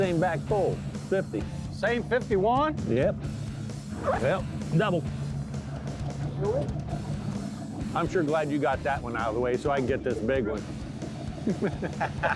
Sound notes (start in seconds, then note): 1.2 upbeat music; 7.9 boat engine chugging; 11.2 both laugh